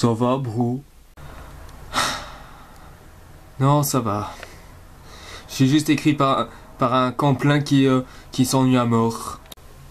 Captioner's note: sigh